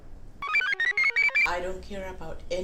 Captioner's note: computer chirps